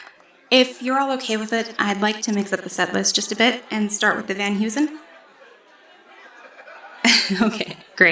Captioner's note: gentle laughs